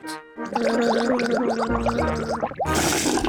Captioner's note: gargles